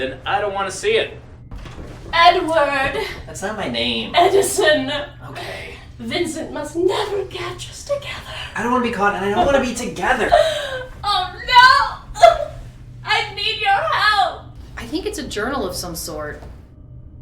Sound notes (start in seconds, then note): 11.0 cries